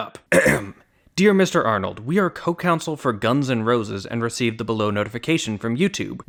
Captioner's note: ahem